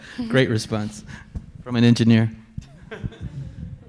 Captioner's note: laughing